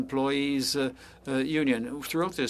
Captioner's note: speaking french